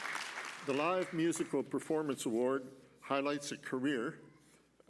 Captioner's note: applause